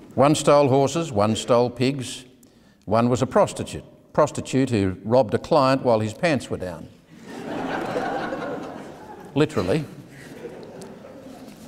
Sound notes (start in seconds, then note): 7.1 audience laughing